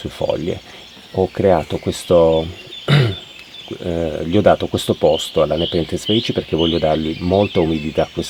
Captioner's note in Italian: schiarire la voce